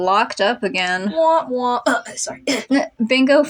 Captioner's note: clears Throat